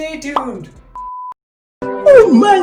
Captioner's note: beep Sound